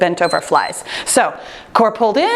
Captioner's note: timer beeps